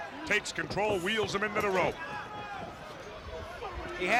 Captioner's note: crowd chatter